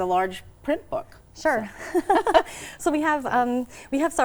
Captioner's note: both laughing